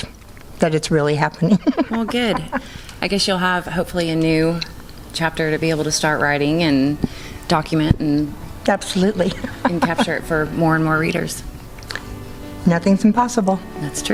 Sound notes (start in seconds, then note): 9.1 laughing